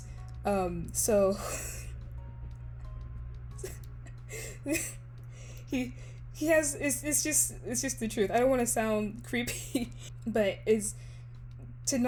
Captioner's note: laughs